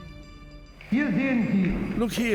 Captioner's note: speaking German